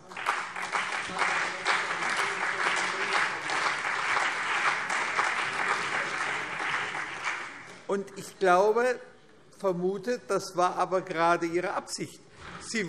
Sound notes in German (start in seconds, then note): 0.0 Beifall CDU und BÜNDNIS 90/DIE GRÜNEN